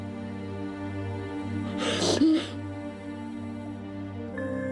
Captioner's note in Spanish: sollozos